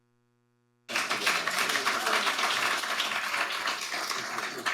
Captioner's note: audience applauding